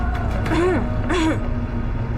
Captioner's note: cough cough cough